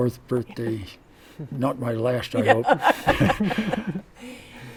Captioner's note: laughter